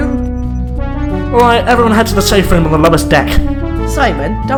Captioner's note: through intercom